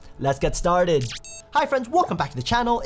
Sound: electronic beeping

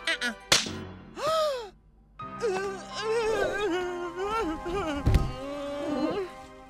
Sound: gasps, quavers

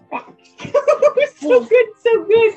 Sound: laughter

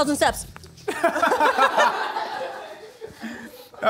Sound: laughing

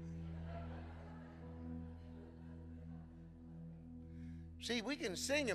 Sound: congregation laughing

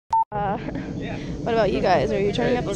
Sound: beep

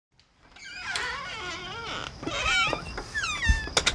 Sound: door creaking

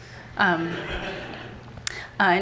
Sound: laughter from the audience

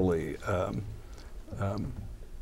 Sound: laughs

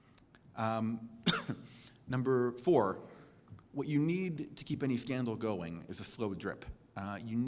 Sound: cough

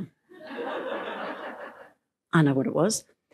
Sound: laughter

